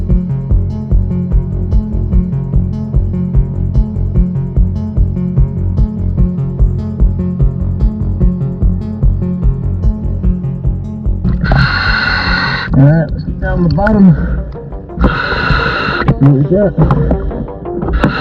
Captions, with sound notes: (oxygen mask hums) All right, let's get down to the bottom. See what we got.